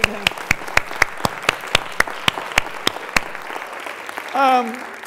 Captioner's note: applause